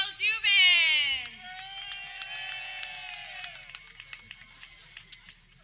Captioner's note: people cheering